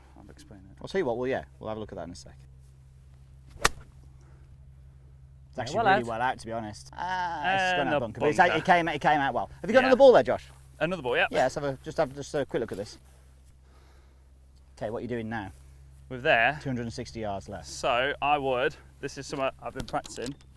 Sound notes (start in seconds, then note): 7.0 making noises expressing doubt